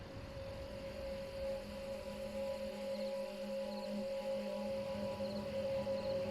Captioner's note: insects chirp; intense music